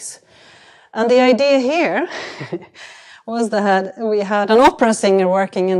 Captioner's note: chuckles